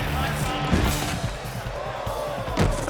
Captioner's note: gentle rock music; thuds